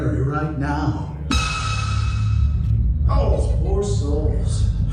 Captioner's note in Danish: høj tone dunkende